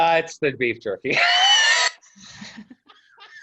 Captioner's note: guffaws